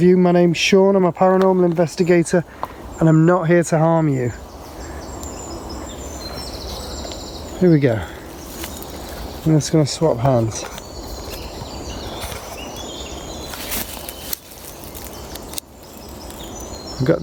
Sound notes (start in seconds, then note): 4.7 birds chirping; 11.1 birds chirping; 13.5 leaves rustling